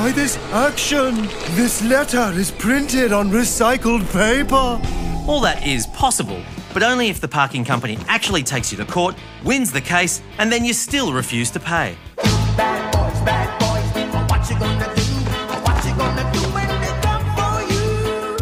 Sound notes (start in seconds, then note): none